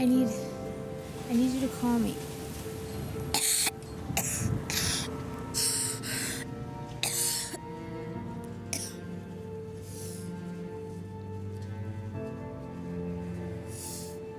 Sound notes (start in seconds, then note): 3.3 coughing; 5.8 sad music